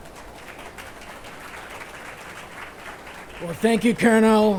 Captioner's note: attendees applauding